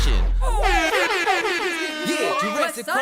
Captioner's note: horn blowing